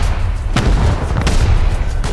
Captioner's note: heli crash!